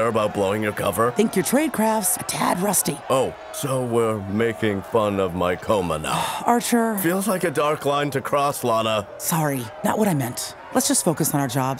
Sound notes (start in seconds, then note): 6.0 sighs